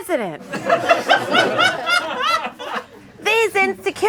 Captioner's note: audience laughing